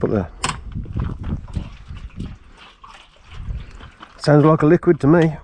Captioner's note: liquid splashing